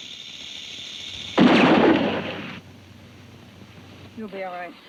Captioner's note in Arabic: أصوات البنادق